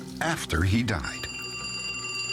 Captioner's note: phone rings